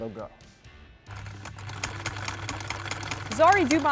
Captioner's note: sewing machine hums